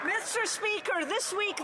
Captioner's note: applause